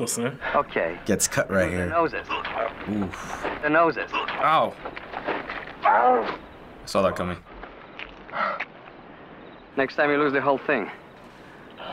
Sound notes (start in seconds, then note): 5.1 victim groaning; 8.3 victim gasping